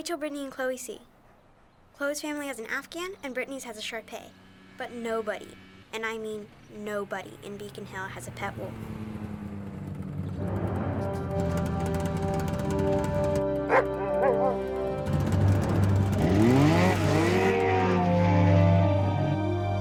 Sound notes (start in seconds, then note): 9.1 snowmobile approaching; 11.3 dramatic music; 13.6 Buck barking